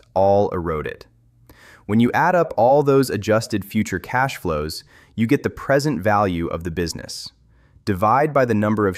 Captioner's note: thoughtful